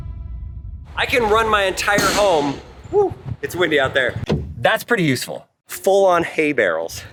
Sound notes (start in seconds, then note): 2.1 loud bang